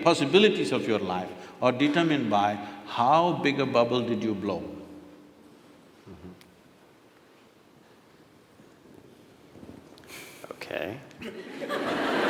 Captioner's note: laughter/Applause